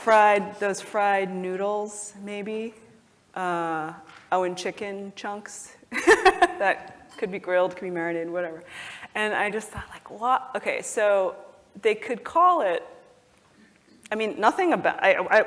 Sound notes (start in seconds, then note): 5.5 laugh